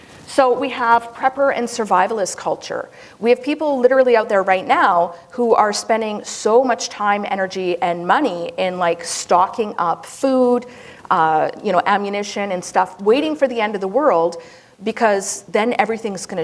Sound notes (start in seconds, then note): none